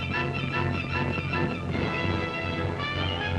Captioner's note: dramatic music; hooves pounding; dramatic music